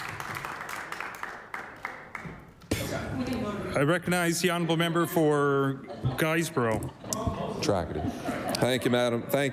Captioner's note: applause